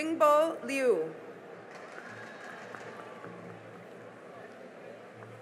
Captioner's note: cheering and applause